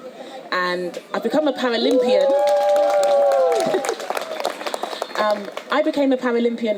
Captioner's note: audience cheers